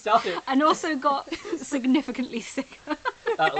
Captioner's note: laughs